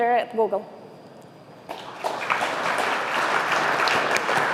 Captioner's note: applause